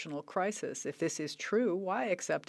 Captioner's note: speaking French